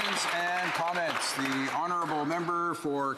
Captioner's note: applause